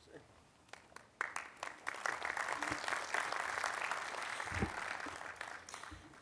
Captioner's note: applause